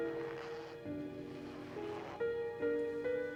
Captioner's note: dress zipping; soft suspenseful music